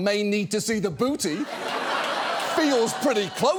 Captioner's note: studio audience laughs